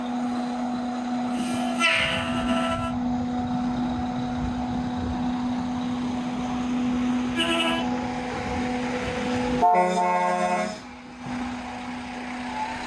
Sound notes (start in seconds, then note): 0.9 brakes whooshing; 9.6 horn honking